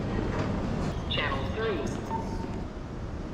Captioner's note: airport Announcement